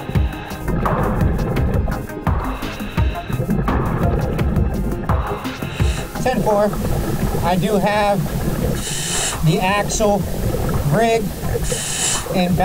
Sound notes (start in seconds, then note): 0.1 continuous heavy breathing through mask; 1.7 continuous water bubbling